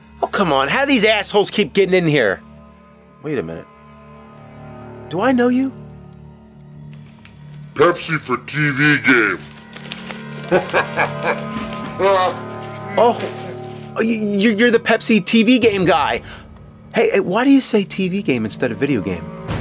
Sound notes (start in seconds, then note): 13.9 stammering